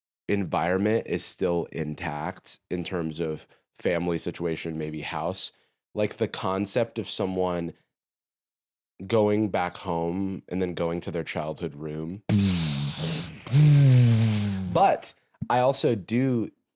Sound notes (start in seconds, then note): 12.3 both mimicking explosions